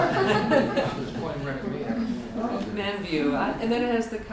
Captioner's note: audience laughter